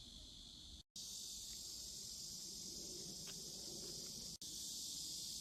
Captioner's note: the never-ending sound of cicadas